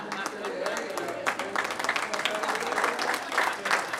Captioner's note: laughter; applause